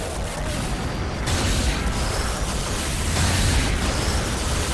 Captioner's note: gun firing